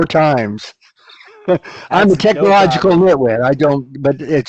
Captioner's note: laughs